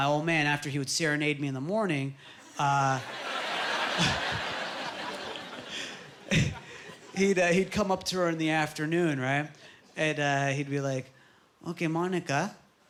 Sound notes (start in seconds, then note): 3.0 laughing